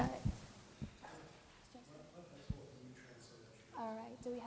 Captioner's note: murmuring